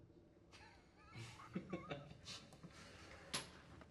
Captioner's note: chuckling